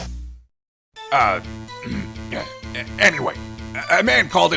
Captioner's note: ahem